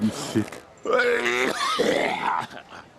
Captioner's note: cough